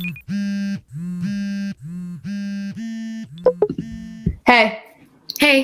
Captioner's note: Twitter notifications, AUTUMN typing, and cell phone vibrating; Cell phone vibrating and Twitter notifications; Constant cell phone vibrations and Twitter notifications